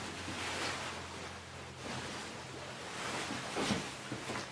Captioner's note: fabric rustling